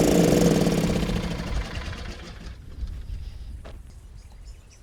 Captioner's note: motor switches off